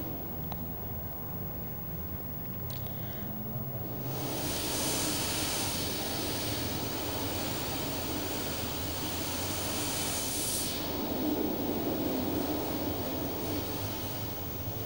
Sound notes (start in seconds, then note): 3.3 shri mataji blows into the microphone